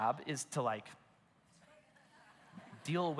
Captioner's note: congregation laughs